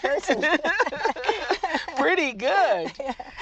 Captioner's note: laughs